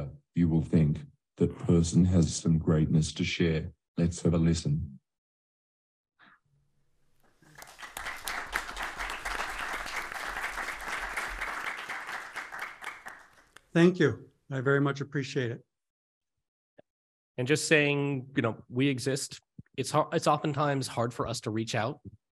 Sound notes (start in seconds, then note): 10.6 applause